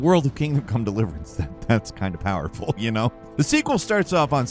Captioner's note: chuckling